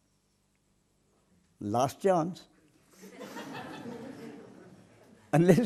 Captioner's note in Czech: smích